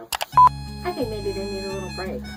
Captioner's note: click and beep